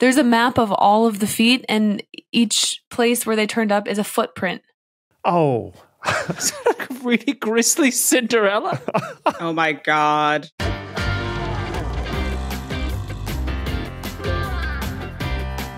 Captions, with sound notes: There's a map of all of the feet, and each where they turned up is a footprint. Oh. (chuckles) (snickers) Really grisly Cinderella? (giggles) Oh my god. Caption+ by JS* caption.plus | @caption_plus